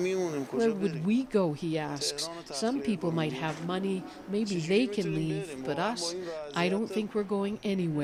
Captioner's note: speaking alternate language